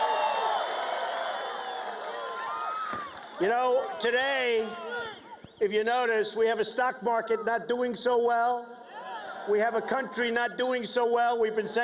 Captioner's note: cheers and applause